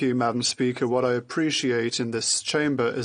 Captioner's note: speaking French